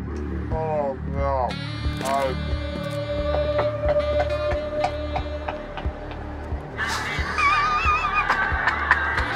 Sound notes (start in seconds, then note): 1.4 jazz music; 3.6 knocking; 6.8 laughs